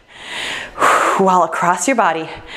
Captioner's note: sighs